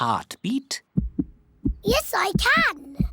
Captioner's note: heart thumps